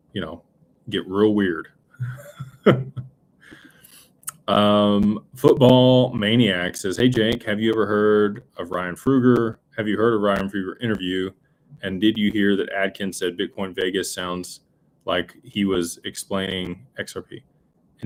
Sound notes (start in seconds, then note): 2.0 laughter